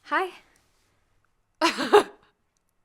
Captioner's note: laughing